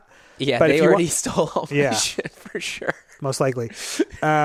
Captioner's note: laughs